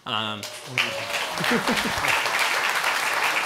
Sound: applause

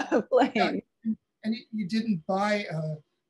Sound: chuckling

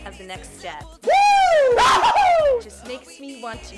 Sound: screaming

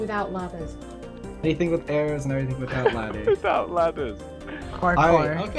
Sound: laughing

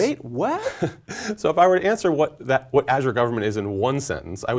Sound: laugh

